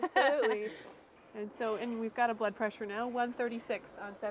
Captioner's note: laughing